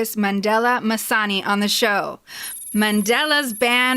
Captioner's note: sci-fi computer typing sound